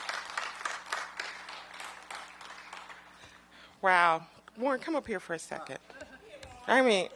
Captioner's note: applause